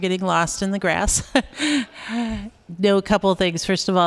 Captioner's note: laughter